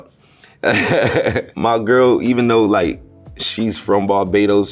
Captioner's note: laughs